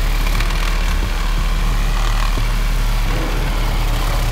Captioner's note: saw cuts